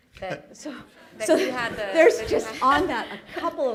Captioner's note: laughter